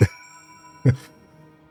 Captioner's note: laughs